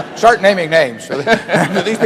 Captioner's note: laughter